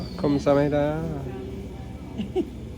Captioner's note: speaking Korean; laughs